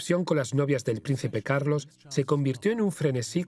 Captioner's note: voiceover